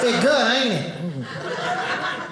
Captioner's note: audience laughing